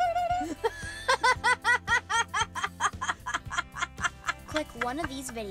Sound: laughter

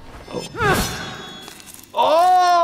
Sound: blade dinging

